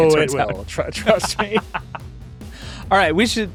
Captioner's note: both laughing